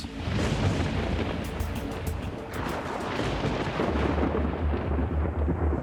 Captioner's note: lightning crackling, thunder rumbling